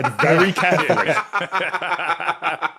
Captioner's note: guests laughing